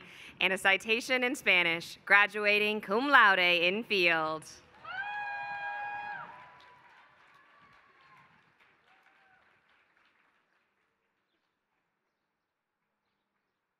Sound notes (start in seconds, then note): 4.6 applause